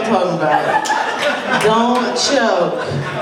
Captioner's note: laughter and applause